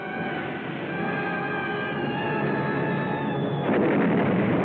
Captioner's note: explosions